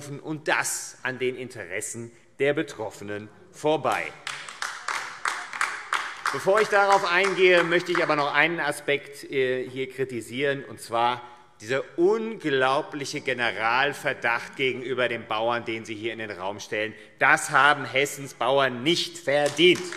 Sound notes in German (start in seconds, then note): 3.9 Beifall AfD